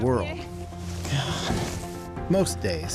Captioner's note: gasps